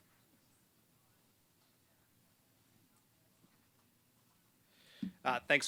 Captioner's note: silence